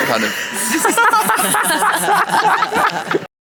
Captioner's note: all laugh